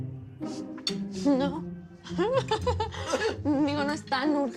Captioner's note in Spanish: Risas